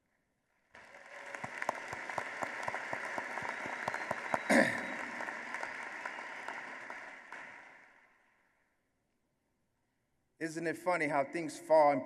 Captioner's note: applause